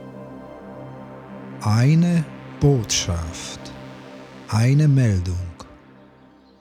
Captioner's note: german